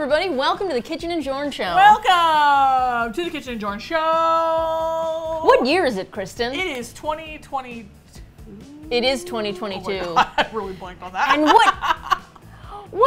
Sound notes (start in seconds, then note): 3.2 singsong; 8.6 laughing